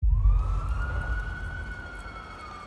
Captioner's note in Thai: เสียงไซเรน